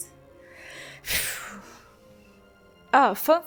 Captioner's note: wheew